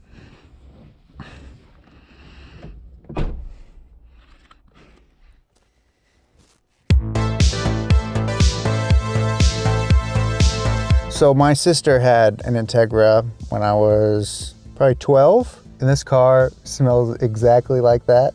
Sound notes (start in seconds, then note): 3.0 door being shut